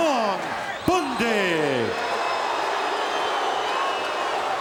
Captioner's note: audience shouting